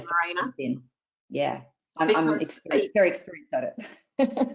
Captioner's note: laughs